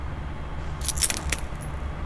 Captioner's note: glass breaks under foot